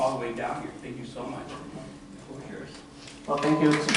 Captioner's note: applause